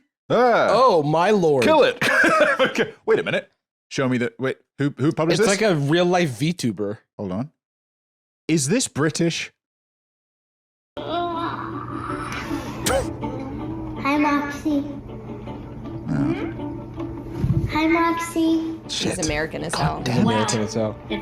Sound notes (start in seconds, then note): 2.0 laughs; 11.2 robot yawns